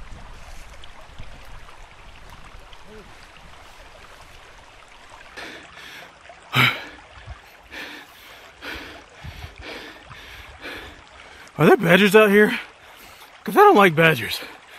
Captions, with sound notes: (Breathing heavy) Are there badgers out here?! Because I don't like badgers.